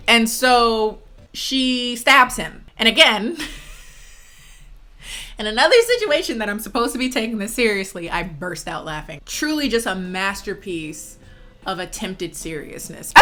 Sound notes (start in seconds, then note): 3.7 laughs